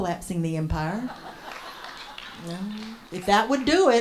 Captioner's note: some laughter and applause from audience